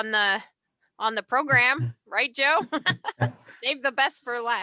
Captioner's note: chuckles